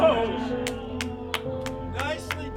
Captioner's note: claps